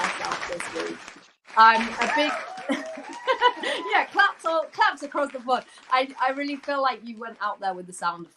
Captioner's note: applause